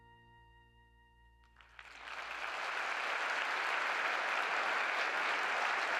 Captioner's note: applause